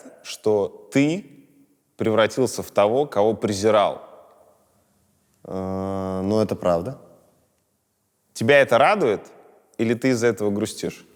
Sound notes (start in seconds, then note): none